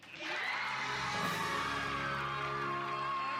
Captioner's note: applause